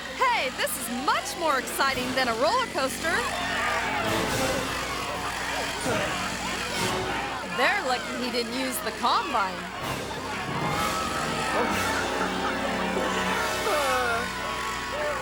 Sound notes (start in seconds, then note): 0.0 engine roaring; 5.4 engine roaring; 10.6 intense music